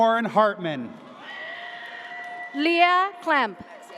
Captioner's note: audience cheers